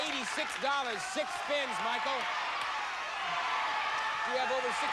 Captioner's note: audience cheers